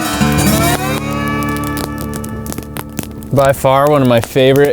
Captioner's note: fire crackling